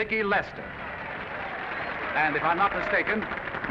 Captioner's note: audience applauding